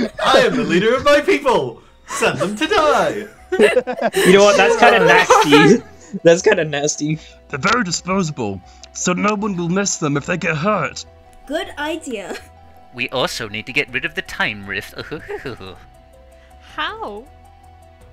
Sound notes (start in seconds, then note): 6.9 laughter; 14.7 chuckles